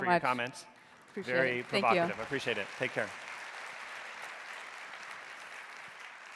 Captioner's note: audience applauding